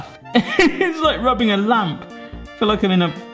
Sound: laughs

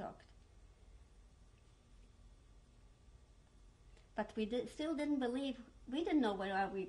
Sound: pauses for 3 seconds

